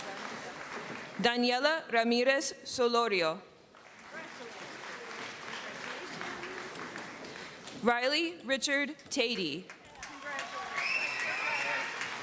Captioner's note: applause